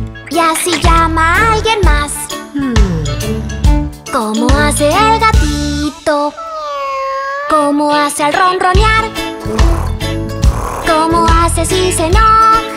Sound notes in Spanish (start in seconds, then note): 6.3 Maullido; 9.5 Ronroneo